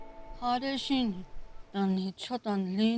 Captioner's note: speaking Navajo